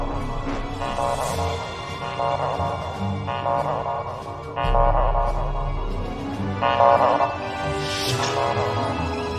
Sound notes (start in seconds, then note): 4.3 tic-tac pulse